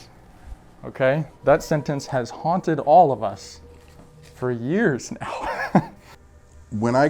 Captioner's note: laugh